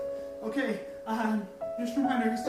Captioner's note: studdering